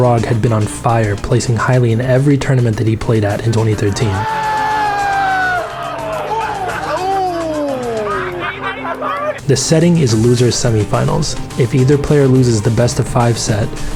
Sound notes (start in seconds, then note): 3.7 crowd cheering; 7.2 crowd laughing